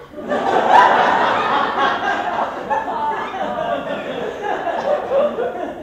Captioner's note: large laughter; pauses in realization as laughter continues